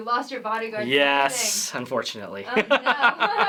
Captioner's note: laughter